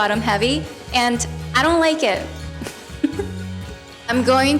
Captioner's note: giggles